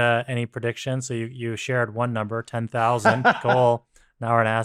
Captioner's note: laughs